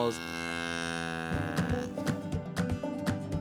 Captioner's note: cow moos; gentle music